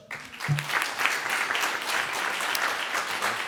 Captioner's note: clapping